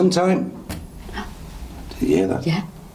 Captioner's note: gasps